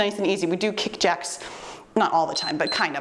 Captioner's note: timer beeps